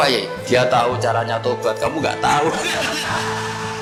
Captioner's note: laughs